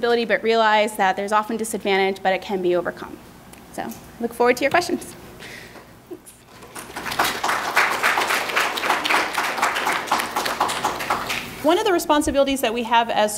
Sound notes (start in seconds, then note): 6.5 applauding